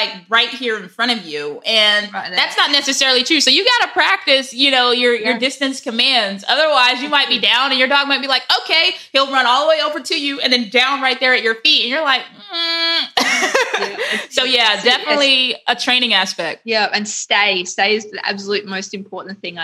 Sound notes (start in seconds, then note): 12.4 laughing